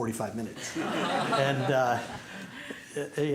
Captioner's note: laughter